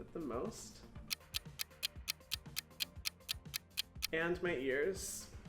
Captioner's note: clock ticking